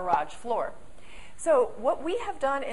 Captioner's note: pop